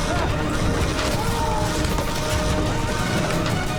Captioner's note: Read yells